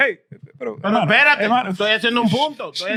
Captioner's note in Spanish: Hablando en idioma extranjero